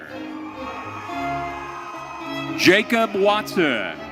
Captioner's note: audience cheering